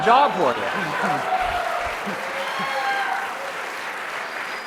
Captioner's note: audience cheering